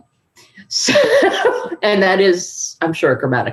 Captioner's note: laughs